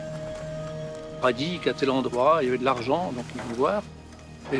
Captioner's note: speaking French